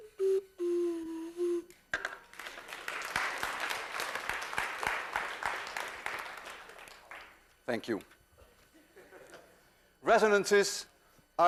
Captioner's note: class applauds